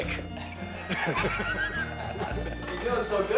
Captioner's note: all laughing